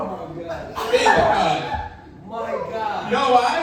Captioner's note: audience laughing